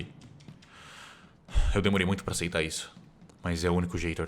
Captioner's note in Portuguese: suspira